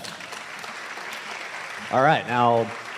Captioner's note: applause